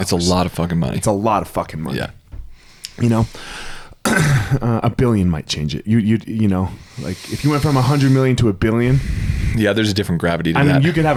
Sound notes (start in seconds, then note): 8.8 sighs